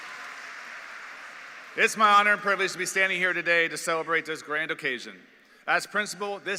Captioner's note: applause